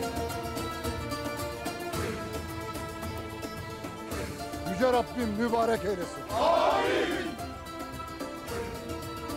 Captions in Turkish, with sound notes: (Müzik - Vurmalılar ve dombra) Yüce Rabbim mübarek eylesin. (Hep bir ağızdan) Amin!